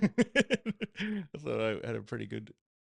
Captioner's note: laughing